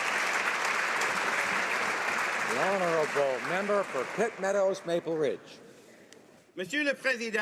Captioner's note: applause